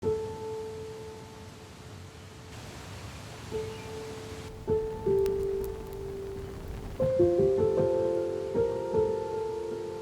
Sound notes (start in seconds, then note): 0.0 soft piano music plays; 4.5 fire crackling